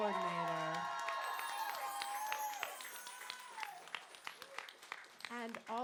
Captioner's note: applause